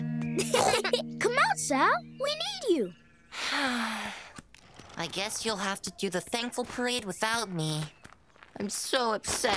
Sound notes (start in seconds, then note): 0.4 laughter; 3.3 sighs